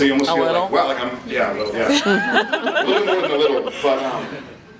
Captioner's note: laughs